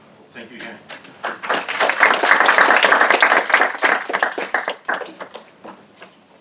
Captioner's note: applause